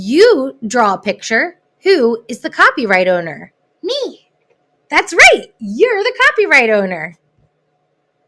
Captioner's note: child's voice